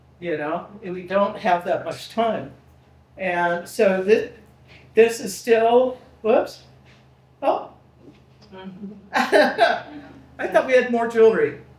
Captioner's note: laughing